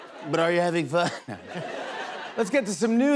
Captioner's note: laughter